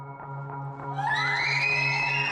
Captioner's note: tense music; excited screams